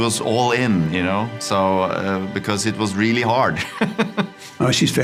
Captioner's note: laughs